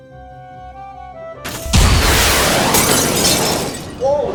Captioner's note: rocket roars